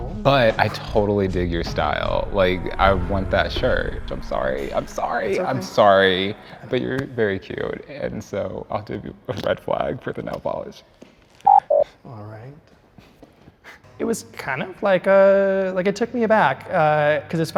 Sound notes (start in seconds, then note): 6.2 hands clap; 11.4 sound effect blips